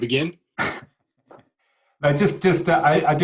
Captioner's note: clearing throat